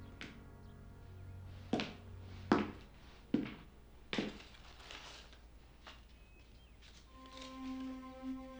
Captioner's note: birds chirping